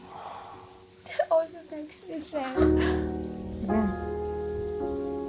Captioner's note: crying